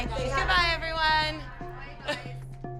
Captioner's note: chuckles